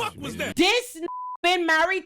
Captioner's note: beep